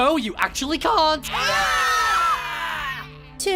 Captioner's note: scream